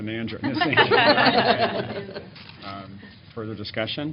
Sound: laughter

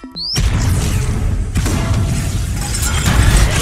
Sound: explosion

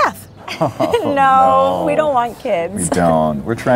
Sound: laughs

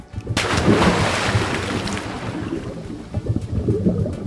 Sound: water splashes

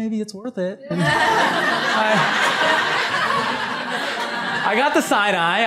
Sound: laughter

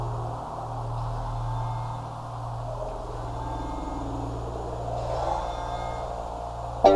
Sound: phone buzzing

